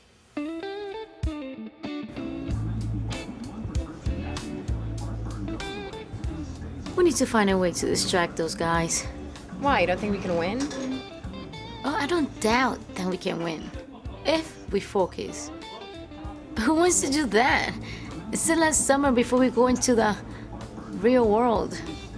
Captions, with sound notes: (soft music) (soft chatter and clinking glasses) - We need to find a way to distract those guys. - Why? You don't think we can win? - Oh, I don't doubt that we can win. If we focus. But who wants to do that? It's the last summer before we go into the real world.